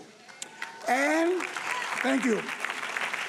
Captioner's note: audience applauding